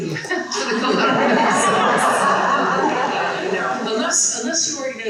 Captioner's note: person laughing